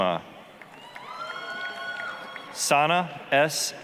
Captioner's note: applause, cheering